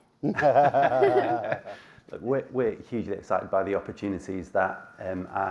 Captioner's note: laughs